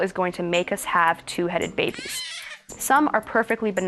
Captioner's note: baby wails